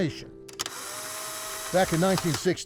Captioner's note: camera snapping